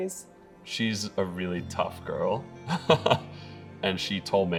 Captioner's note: laughs